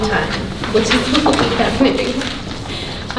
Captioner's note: rustling drowns out speaker